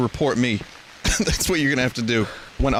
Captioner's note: laughs